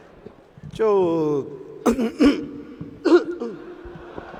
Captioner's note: fake throat clearing